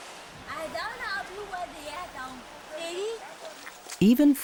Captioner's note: speaking in foreign language